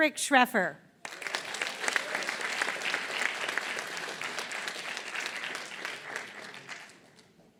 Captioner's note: applause